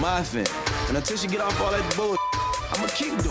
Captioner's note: beeps